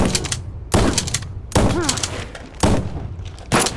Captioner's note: gun firing; all moaning